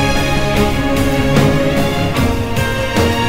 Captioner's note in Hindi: none